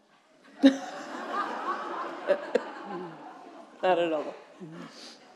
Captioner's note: audience chuckling